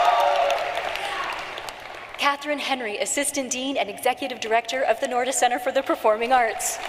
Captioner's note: cheering and applause